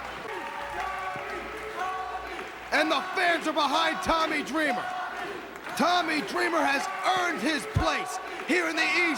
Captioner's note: crowd cheering